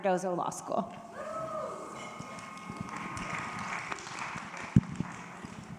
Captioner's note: audience cheers and applauds